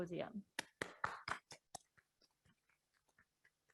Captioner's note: claps